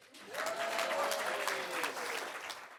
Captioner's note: applause